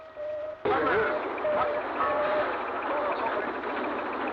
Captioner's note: shouting